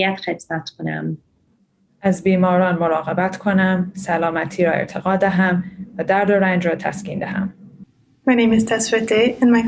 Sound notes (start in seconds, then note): 2.1 speaks in foreign language